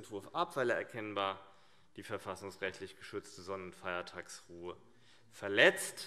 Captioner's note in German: none